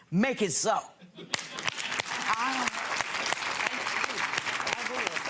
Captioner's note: clapping